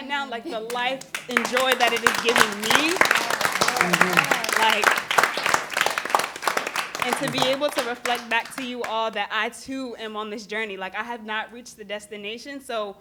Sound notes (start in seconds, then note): 0.6 applause; 4.8 applause continues